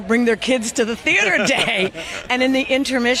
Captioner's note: laugh